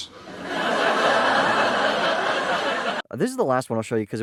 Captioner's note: laugh track